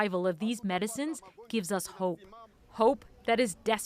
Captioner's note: speaking alternate language